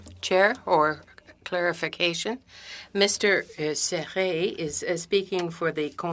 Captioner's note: speaking French